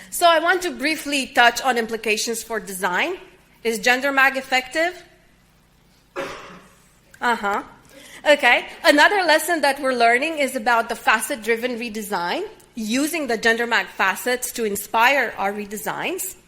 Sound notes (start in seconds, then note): 6.1 audience member coughs